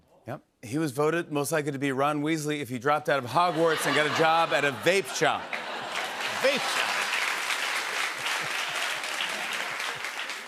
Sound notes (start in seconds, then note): 3.3 laughter; 7.5 applause